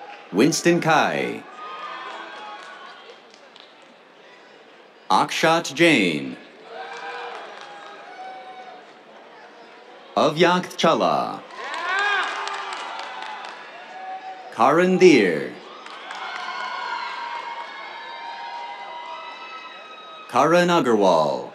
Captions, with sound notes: Winston Cai. [CHEERS, APPLAUSE] Akshat Jain. [CHEERS, APPLAUSE] Avyakth Challa. [CHEERS, APPLAUSE] Karan Dhir. [CHEERS, APPLAUSE] Karan Agarwal.